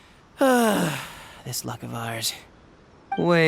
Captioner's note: sigh